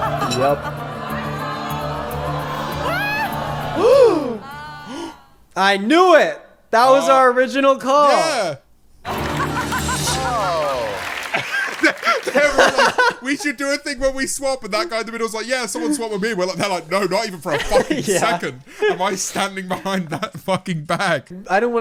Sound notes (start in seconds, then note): 0.2 tense music playing; 4.6 gasping; 9.2 laughing